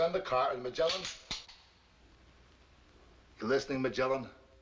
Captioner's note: gun clicking